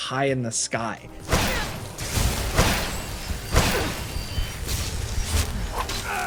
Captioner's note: Vyrthur and character grunting